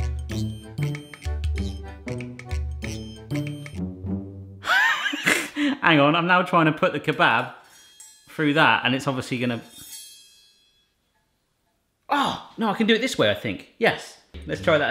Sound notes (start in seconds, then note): 0.0 playful music; 4.6 wheezing laugh